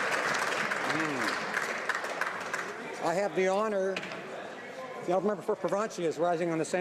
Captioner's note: some Applause